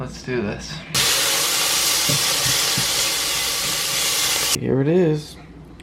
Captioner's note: sizzling